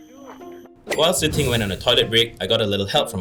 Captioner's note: voiceover